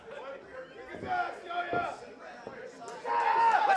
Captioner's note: crowd cheering